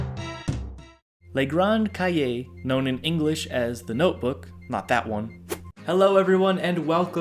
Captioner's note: screen swipe